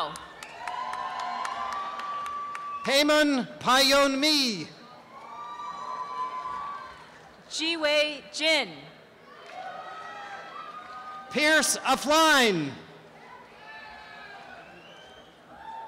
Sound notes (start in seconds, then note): 0.0 applause; 5.1 applause and cheering; 9.3 applause and cheering; 14.1 applause and cheering